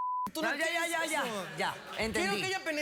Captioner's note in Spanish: risas